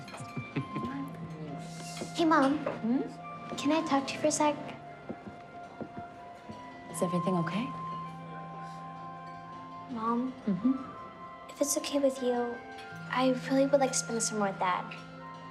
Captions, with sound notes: (chuckling) Hey, Mom, can I talk to you for a sec? - Is everything okay? - Mom. - Mm-hmm? - If it's okay with you, I really would like to spend the summer with Dad.